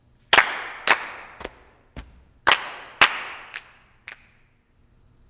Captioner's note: rhythmic clapping